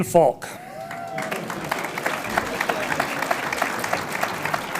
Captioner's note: audience applauds